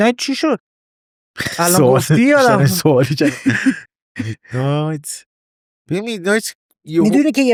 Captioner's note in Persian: خنده